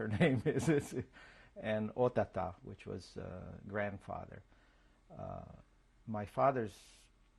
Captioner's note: laughs